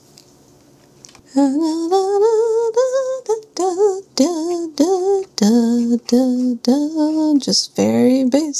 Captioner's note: humming a tune